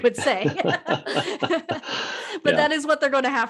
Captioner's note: laughing